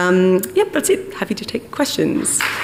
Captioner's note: applause